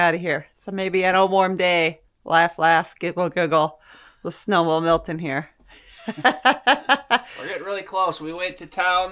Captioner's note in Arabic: ضحك، ضحك، ضحك